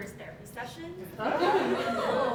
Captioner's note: audience Laughing